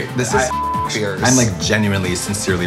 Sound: beep

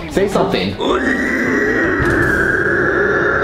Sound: screeching

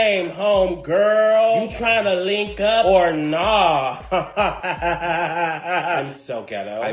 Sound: laughs

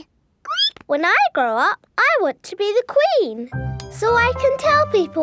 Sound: squeaks

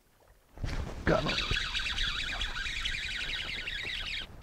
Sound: rod recoiling

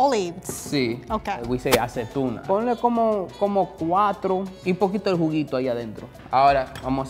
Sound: speaking in foreign language

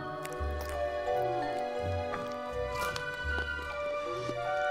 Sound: children chomping

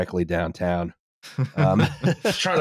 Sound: laughter

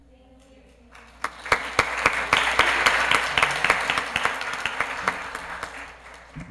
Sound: applause

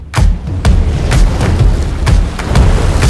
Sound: water swooshing

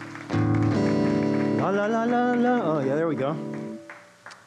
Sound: audience applauds

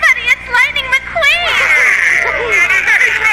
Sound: all chattering

